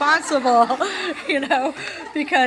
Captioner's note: laughter